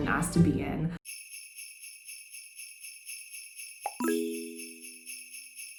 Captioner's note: sleigh bells jingling